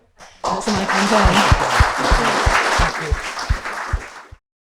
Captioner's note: audience clapping